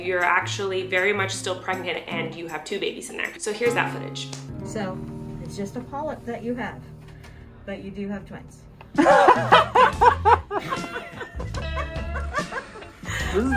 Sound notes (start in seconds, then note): 9.0 laughing; 10.5 happy music begins